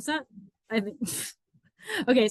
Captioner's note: chuckles